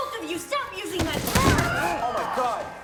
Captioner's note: loud thud